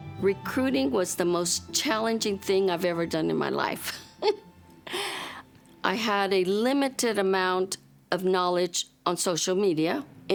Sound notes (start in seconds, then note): 3.8 chuckles